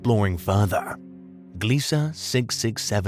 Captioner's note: narrator switches to documentary style tone and delivery